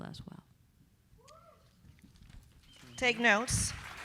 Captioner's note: audience applauding; audience cheering